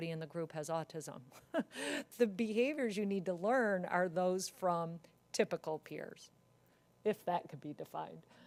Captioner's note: laugh